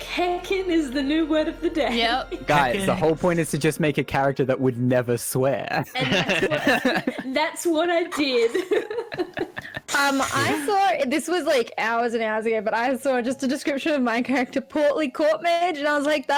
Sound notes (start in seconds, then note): 5.9 laughs; 8.8 giggles